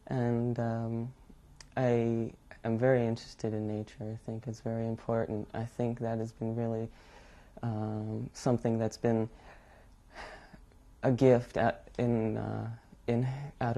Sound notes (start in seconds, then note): none